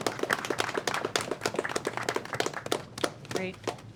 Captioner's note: applause